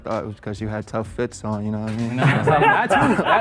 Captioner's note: men laugh